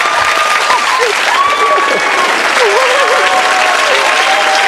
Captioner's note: audience cheers; audience claps